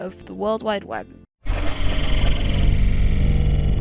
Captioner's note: more cool sci-fi sfx